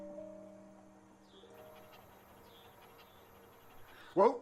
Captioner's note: panting